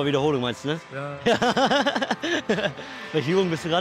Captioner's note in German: lacht